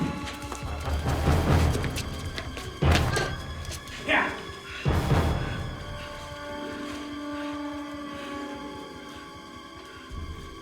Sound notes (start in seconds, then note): 6.0 panting